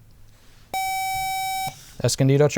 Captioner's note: buzzer